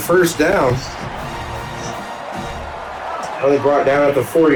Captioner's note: crowd Noises